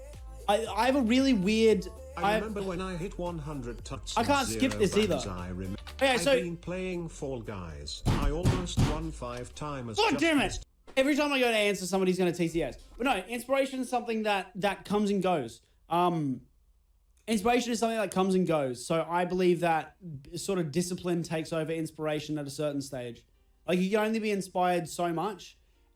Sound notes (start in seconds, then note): 8.0 more TTS